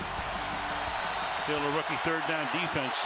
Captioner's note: cheering